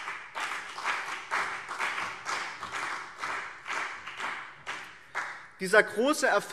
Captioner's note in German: Beifall BÜNDNIS 90/DIE GRÜNEN und CDU